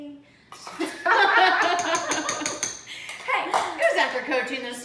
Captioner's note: laughter